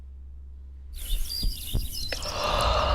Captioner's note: birds chirping; exhalation